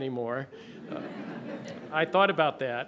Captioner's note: laughter